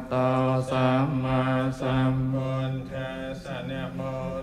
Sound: leader chants in foreign language; attendees chant in foreign language; monks chant in foreign language

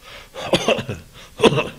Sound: coughing

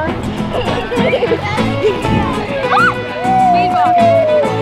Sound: laughter

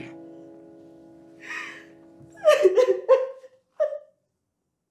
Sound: crying

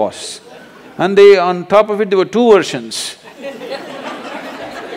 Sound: laughter

